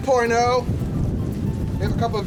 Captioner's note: wind gusting